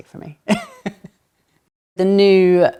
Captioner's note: laughs